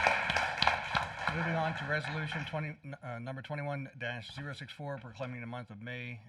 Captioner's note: applause